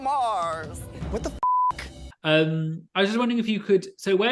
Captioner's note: beep